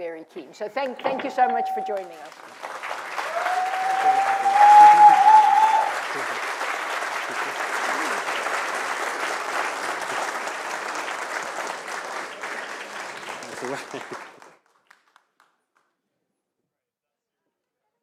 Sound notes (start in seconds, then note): 3.5 applause